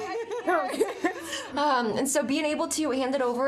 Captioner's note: all laughing